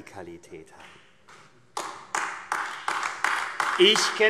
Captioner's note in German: Beifall AfD